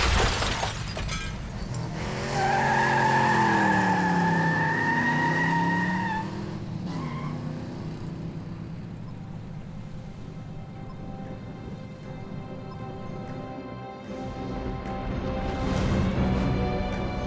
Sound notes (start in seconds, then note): 1.1 tyres screech